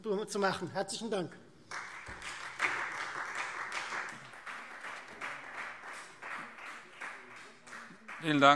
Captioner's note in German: Beifall Freie Demokraten